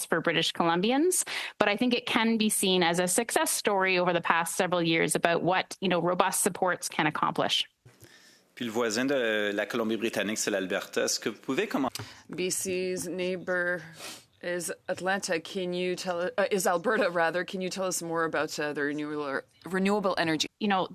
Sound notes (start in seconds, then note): 13.8 speaking French